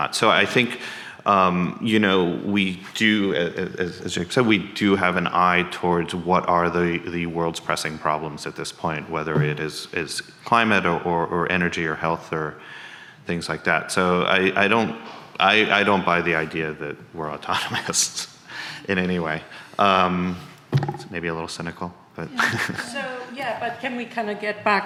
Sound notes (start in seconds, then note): 17.4 chuckles; 22.3 laughs